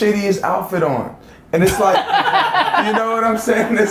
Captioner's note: laughs